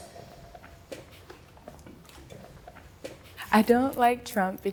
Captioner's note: footsteps